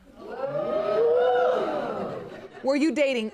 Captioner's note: audience reacts